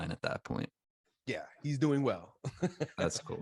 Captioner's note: laughs